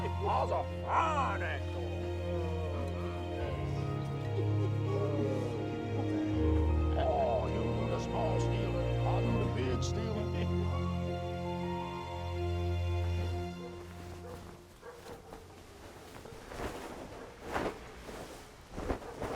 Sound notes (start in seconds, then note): 10.6 laughing; 13.5 dog barking in distance